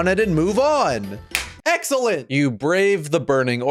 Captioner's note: slap